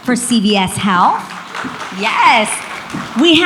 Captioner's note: audience applauds